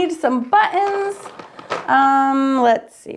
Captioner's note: markers clacking